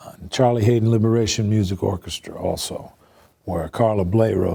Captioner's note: none